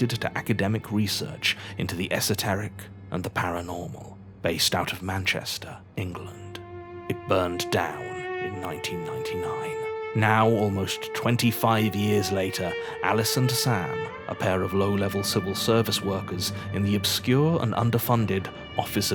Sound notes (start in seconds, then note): none